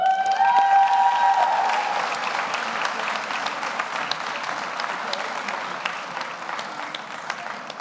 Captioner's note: audience cheers; audience applauds